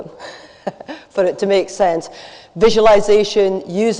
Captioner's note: laughs